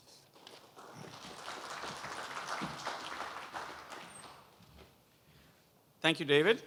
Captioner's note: applause